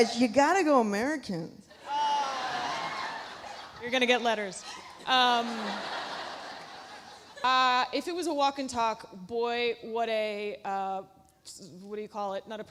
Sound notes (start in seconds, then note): 4.7 audience laughs